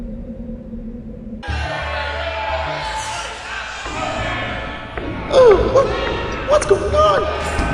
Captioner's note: crowd shouting